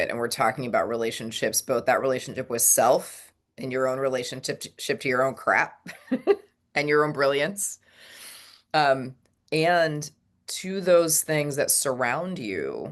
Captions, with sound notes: and we're talking about relationships, both that relationship with self, and your own relationship t- ship to your own crap (laughs) and your own brilliance, um, and to those things that surround you